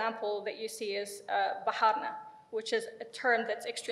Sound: speaks in foreign language

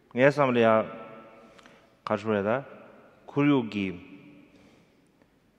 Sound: speaking in foreign language

